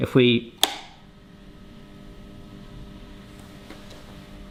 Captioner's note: machine buzzing